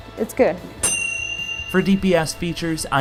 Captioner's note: bell chimes ring